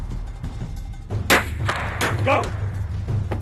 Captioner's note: gun clicks